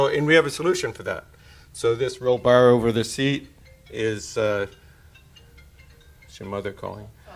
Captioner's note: cellphone rings in background